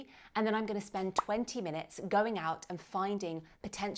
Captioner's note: bubble popping